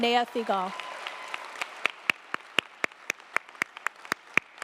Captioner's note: audience applauding